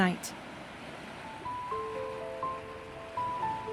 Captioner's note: water Lapping On The Shore